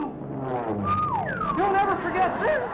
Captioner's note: engine roars